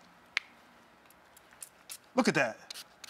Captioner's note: soft spraying